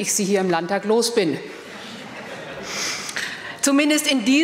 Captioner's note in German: Gelächter